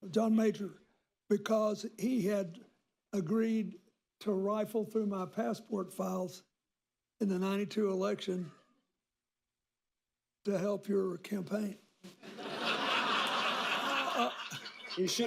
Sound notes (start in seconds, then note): 12.0 laughter